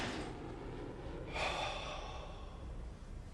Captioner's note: sighs